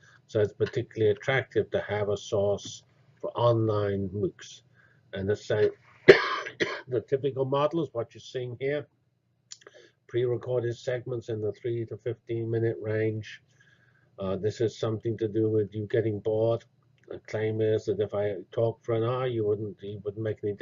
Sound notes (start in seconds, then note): 6.0 cough